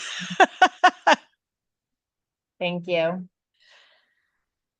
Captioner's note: person laughing